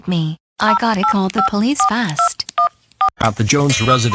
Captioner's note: cell phone dial